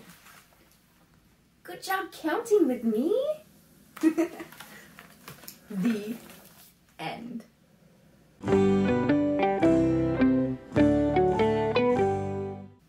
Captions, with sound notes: Good job counting with me! [Laughs] The end! [Transition music]